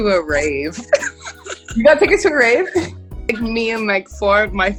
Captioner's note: laughs